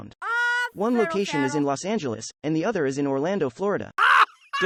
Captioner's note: laugh